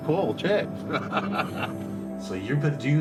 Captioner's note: laughs